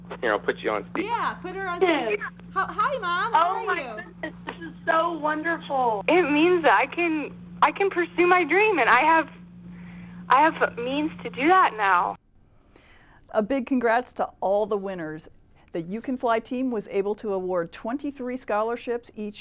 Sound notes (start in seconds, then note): 2.4 mother On Phone Speaker; 4.4 mother On Phone